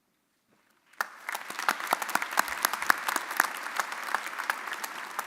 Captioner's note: audience applauding